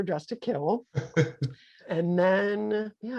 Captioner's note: laughing